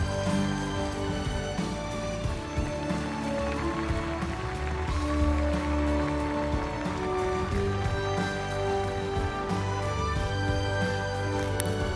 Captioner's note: applause